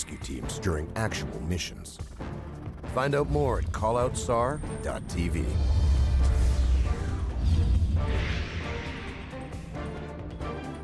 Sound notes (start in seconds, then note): 5.6 voiceover